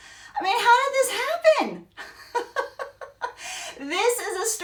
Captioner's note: laughs